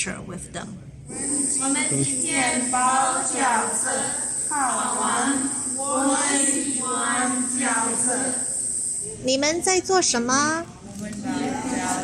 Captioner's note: speaking Mandarin